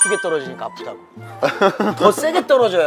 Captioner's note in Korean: 웃음